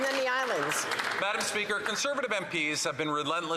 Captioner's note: some Applause